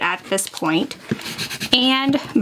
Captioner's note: tool scraping